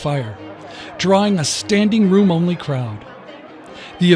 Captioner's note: background talking